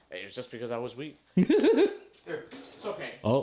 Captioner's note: laughing